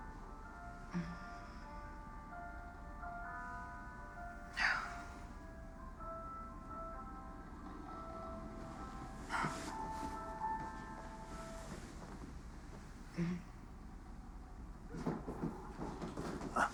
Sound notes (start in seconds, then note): 0.1 moans lightly; 4.5 sighs; 13.1 groans lightly; 14.9 footsteps approaching